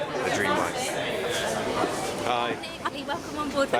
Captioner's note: chatter